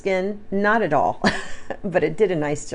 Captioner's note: chuckles